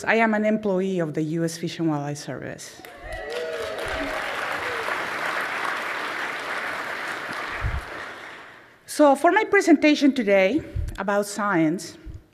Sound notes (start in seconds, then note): 6.5 applause